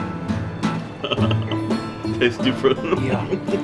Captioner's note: iranian instrumental music; laughing